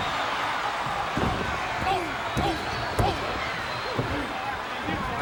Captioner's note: audience cheering